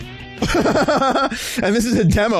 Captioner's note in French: Rire